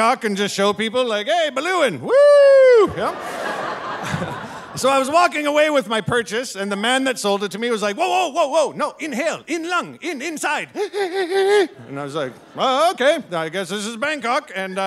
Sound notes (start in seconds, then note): 2.8 audience laughing; 4.3 laughing; 10.7 imitates inhaling